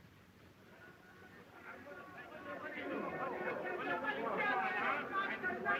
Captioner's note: chatter